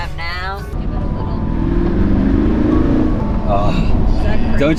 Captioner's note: Porsche revving